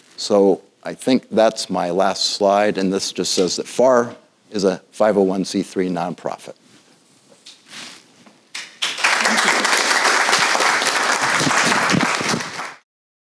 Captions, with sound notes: So I think that's my last slide. And this just says that FFAR is a 501 c 3 nonprofit. (audience applauding)